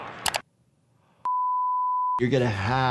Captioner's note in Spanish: las barras de color emiten un pitido